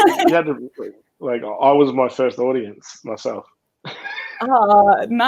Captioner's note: laughing; laughing